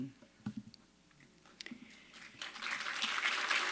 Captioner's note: applause